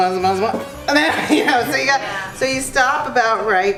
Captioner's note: laughs